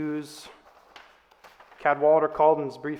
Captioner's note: page flips